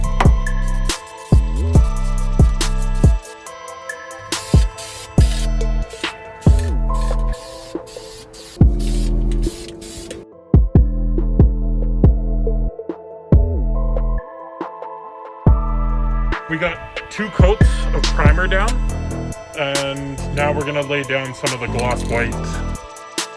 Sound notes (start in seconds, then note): 1.1 episode theme music; 4.9 paint nozzle whispering; 23.1 episode theme music